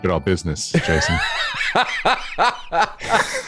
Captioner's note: laughter